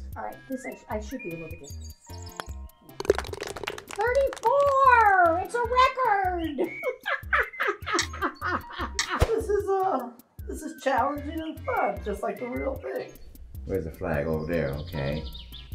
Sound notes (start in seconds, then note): 2.9 ball falls in cup, applause; 6.9 cackling